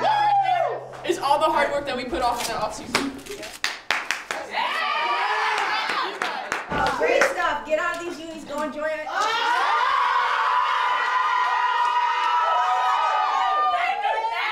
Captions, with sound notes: - That right there, is all the hard work that we put off in that off season. (team cheering and applauding) I'm proud of you guys! - Great stuff get out of these unies go enjoy it (team cheering)